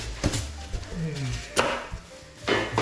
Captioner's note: styrofoam scratching